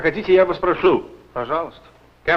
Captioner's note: foreign language